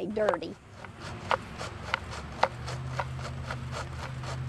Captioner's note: soil shuffling